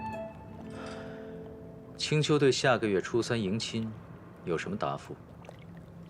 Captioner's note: sigh